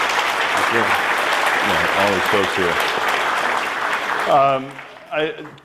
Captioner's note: applause